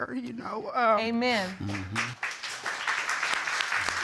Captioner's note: audience applauding